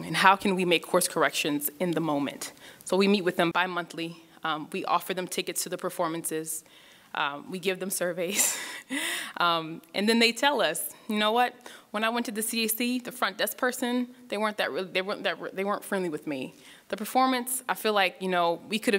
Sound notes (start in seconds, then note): 8.5 laughs